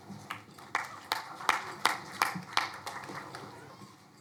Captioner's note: crowd applauding